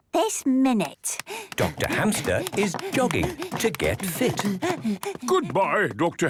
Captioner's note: panting